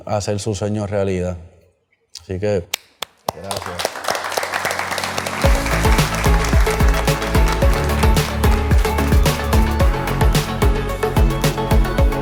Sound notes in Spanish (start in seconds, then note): 2.2 Aplausos